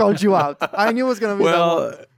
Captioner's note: laughs